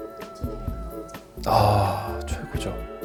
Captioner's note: gasps